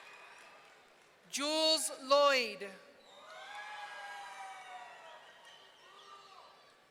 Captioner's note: audience cheering